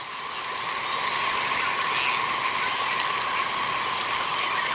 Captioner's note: birds squawking